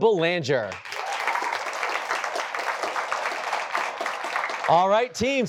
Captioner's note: applause